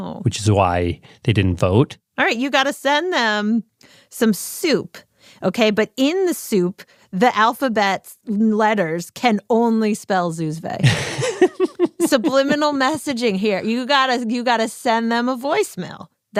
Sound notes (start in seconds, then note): 10.8 laughs